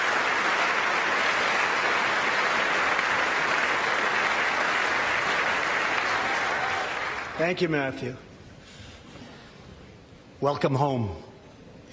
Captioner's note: applause